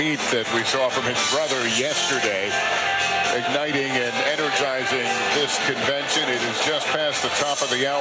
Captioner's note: cheers and applause